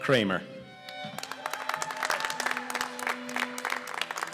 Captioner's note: applause